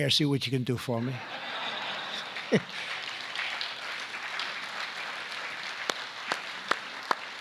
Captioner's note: laughter and applause